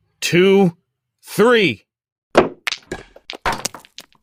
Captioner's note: sound of stones hitting the board